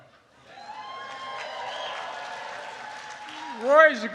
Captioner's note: applause